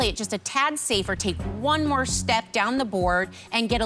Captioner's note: none